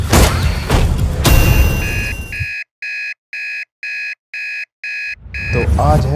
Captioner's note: alarm buzzing